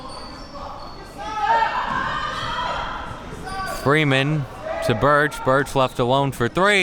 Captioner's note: athletes shouting